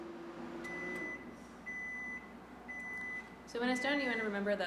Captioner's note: beep beep beep